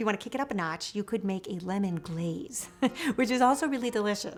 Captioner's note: laughs